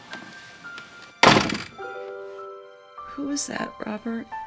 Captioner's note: dooor shuts